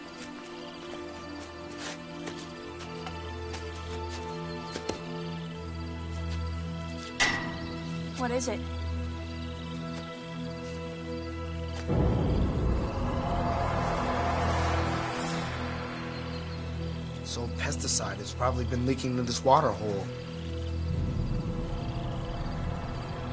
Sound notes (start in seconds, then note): 0.2 ominous music; 7.1 metal clanging; 9.3 ominous music; 20.5 ominous music